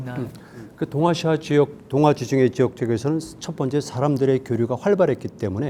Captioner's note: speaking in Korean